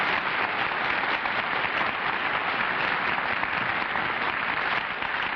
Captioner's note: applause